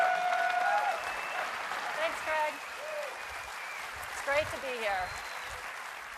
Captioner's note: cheers and applause